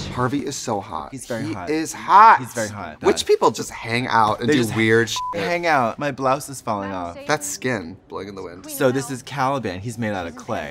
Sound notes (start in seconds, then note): 5.1 beep